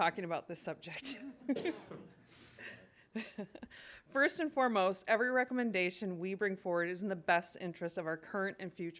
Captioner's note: laughter